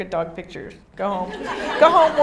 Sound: audience laughing

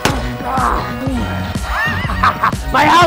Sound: uses nail gun; grunts; laughs

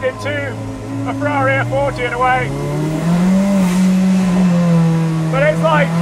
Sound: car engine roars

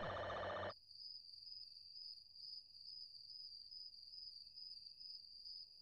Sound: crickets chirping in the distance

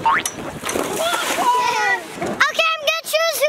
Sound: water splash

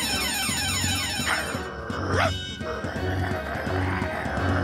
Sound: alarms ringing; growling, barking viciously

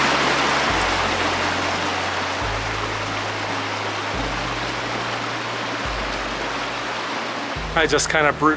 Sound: running water and background music

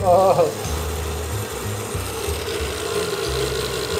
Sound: blender buzzing

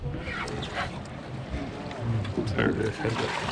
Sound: reel cranking

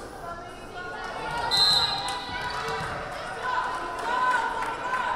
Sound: whistle blaring

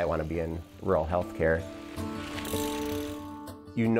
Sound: bicycle gear clicking

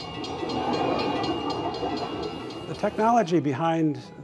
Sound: bell clanging

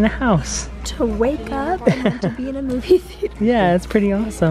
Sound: laughs

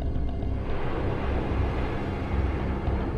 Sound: jet engine roars

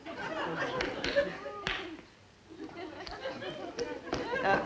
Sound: three hand claps

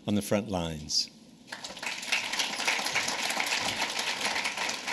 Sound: applause

